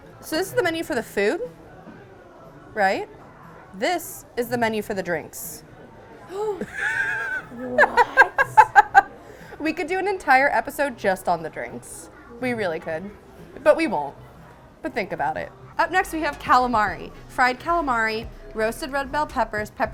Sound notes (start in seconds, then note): 5.9 gasps; 6.5 laughs